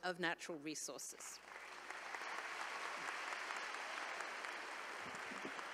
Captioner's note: attendees applauding